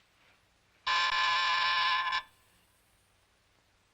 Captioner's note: buzzer buzzes